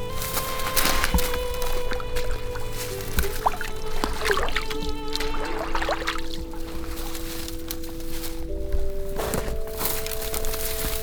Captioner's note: sound of walking, soft music